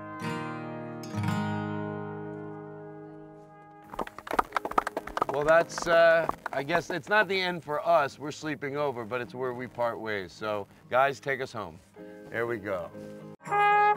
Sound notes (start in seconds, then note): 3.8 clapping